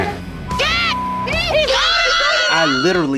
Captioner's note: teammates shout